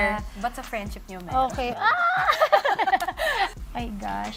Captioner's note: laughs